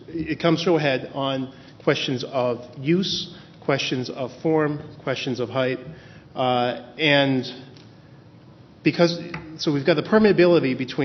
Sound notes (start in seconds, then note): none